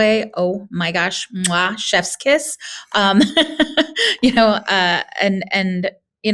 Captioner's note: laughing